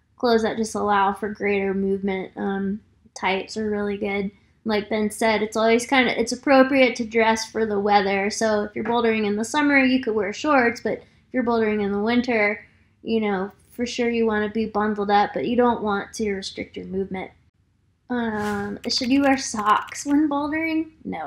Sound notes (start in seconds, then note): 18.4 keyboard clicking